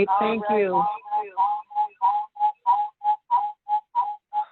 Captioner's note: speaker feedback